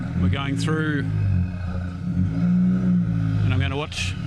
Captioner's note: engine revving